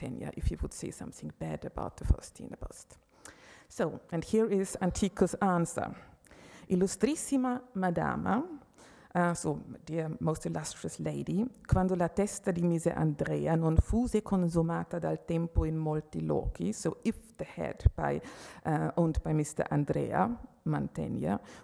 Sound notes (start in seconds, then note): 11.7 speaking Italian